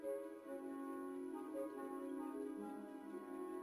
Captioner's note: speaking French